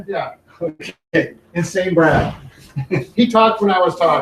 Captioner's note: chuckles